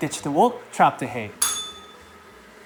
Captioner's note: bell rings